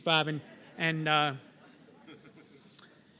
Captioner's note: laughter